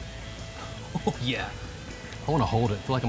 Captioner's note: laughs